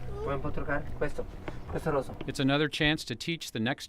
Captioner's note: speaking in foreign language